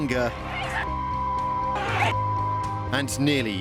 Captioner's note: shouting and screaming